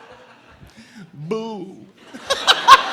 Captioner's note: imitating vinnie barbarino